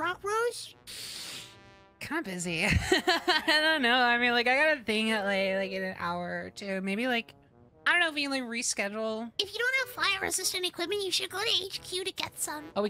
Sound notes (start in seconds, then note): 0.8 sharp Inhale; 2.6 laughter